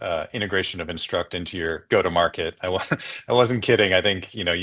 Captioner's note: laughs